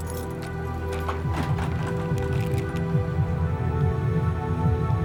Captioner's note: heartbeat beating